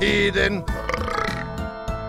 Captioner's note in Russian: Безразборная речь на шотландско-подрывниковом наречии; отрыжка